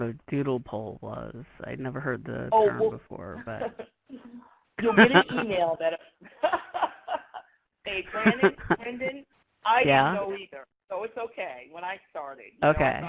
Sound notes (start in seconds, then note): 4.8 laughs; 8.0 laughs